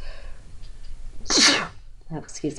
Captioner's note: sneezes